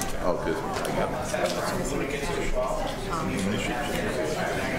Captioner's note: background chatter